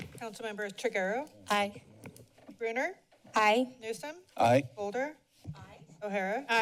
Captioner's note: none